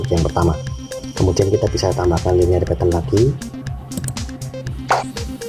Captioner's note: click